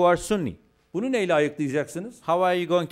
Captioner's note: non-english speech